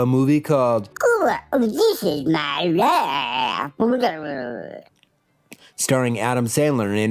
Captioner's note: "This is my life" in Adam Sandler voice